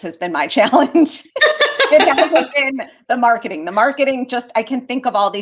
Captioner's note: laughter